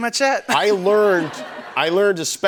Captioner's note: laughter